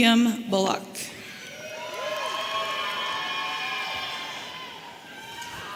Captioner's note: audience cheering